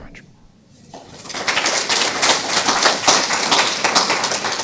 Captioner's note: applause